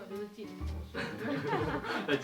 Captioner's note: laugh